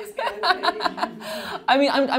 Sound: laughing

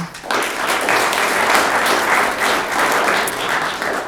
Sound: room applauds

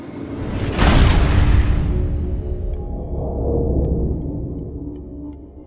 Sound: crash

